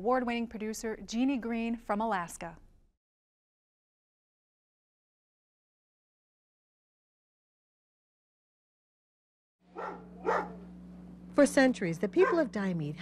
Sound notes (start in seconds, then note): 9.7 dog barking